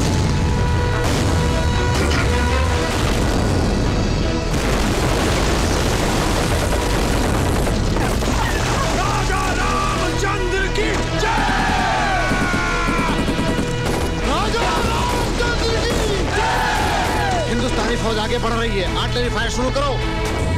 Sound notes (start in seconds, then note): 4.4 Explosion